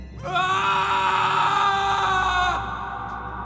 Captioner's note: Antony roars